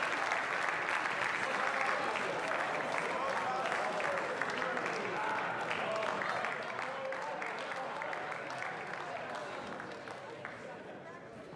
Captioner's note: applause